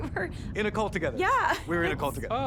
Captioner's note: chuckles